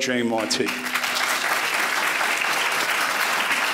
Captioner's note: applause